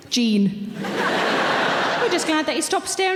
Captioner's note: audience laughs